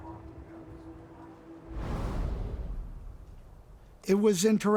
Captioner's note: air shuttering